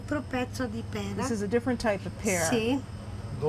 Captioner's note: speaking Italian